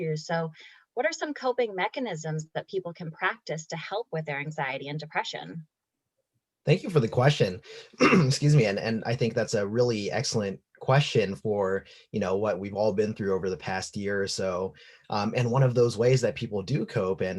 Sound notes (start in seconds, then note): 6.7 coughs